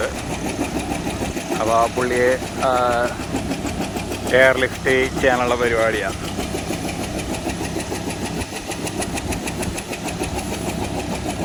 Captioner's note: helicopter whirring